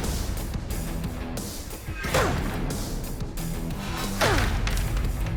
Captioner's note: grunting